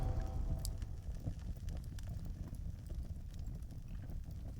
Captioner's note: fire crackling